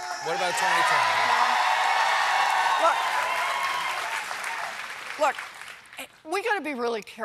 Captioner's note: cheers and applause